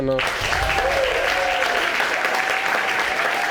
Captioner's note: crowd applauding